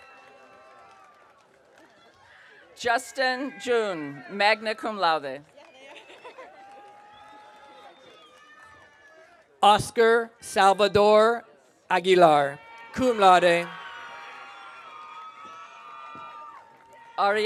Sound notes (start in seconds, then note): 0.0 audience cheering; 5.8 graduate laughs; 12.6 audience cheering